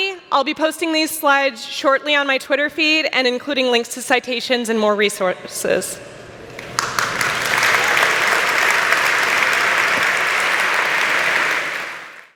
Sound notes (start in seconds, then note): 6.5 applause